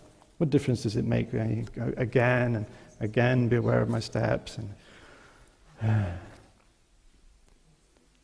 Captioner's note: sigh